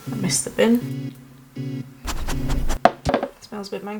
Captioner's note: dog sniff noises